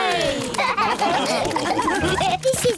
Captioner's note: all laugh